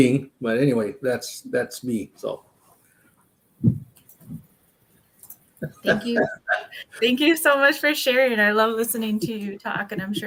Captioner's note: laughs